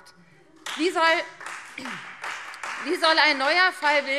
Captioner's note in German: Beifall Freie Demokraten